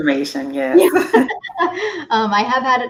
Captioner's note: both laughs